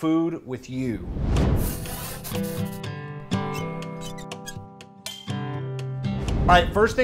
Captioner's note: upbeat music; pen writing